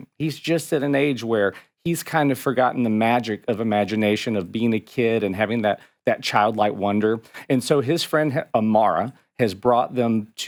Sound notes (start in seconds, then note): none